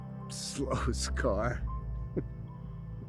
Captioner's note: sobbing